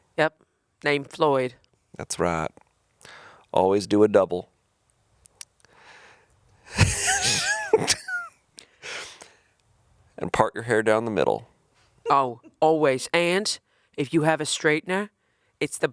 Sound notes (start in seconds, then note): 6.6 chuckling; 12.2 chuckling